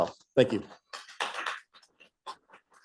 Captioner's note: applause